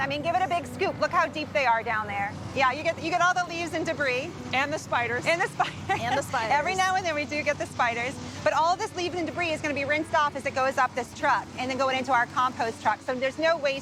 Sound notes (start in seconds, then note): 5.3 laughing